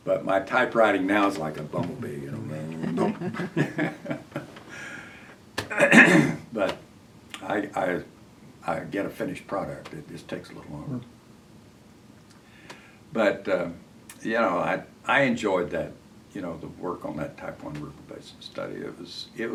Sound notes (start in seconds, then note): 3.5 buzzing sound